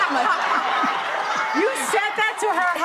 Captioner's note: audience laughs